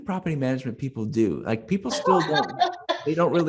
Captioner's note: laughs happily